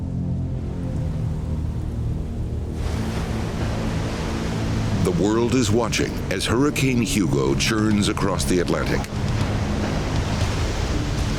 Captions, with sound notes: (waves crashing) The world is watching as Hurricane Hugo churns across the Atlantic.